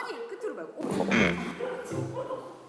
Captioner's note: snaps